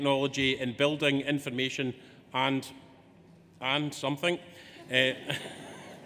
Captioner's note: laughs